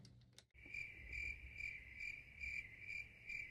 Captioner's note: crickets chirp